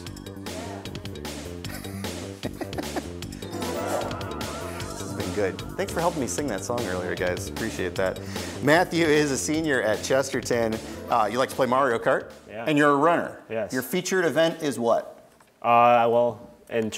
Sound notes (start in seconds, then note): 0.1 upbeat music; 3.8 laughs